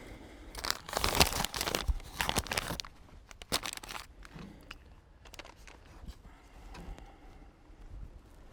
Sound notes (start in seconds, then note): 0.5 envelope crinkling